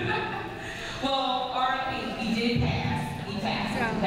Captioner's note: laughs